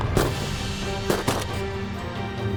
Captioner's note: gun shots; gun shot